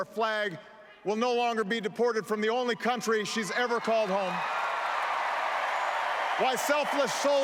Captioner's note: applause